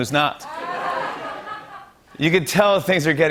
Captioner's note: laughter